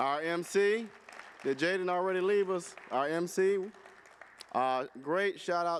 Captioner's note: applause